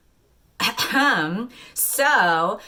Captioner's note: cough cough